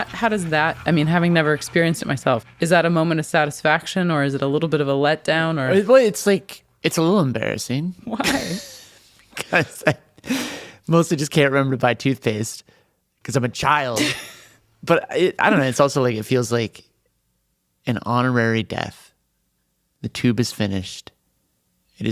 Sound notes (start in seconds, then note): 8.2 laughs; 14.0 laughs